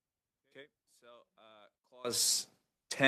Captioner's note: speaking French